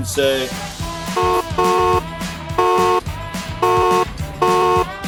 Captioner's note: horns honking